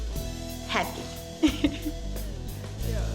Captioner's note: upbeat music; laughs; upbeat music